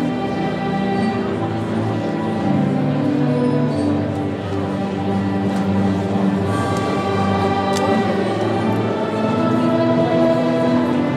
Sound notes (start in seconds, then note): none